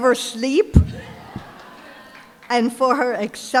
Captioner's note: laughter